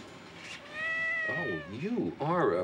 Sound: meooow

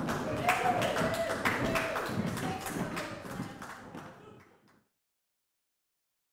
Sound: clapping; chattering

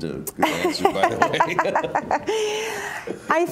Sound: laughter

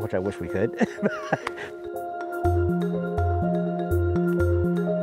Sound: chuckling

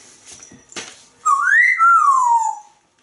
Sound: whistles

